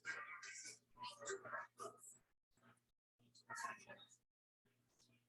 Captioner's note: people chattering indistinctly